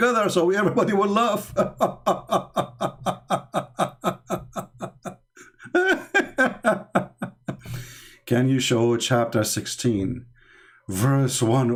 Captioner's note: Ketawa